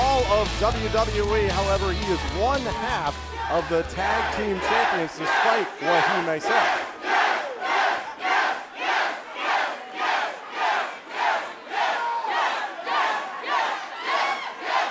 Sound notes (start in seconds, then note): 8.2 crowd cheering